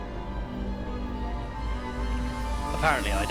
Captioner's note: low growls